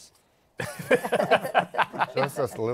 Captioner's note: laughter